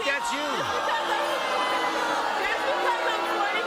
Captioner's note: audience jeering and booing